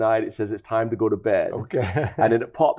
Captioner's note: laughs